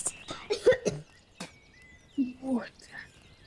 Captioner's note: Oliver coughing and spitting